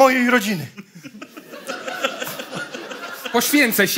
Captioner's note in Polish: śmiech